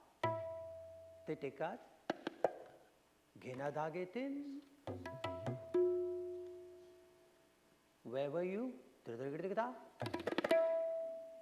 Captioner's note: foreign language